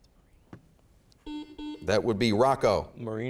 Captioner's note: beeping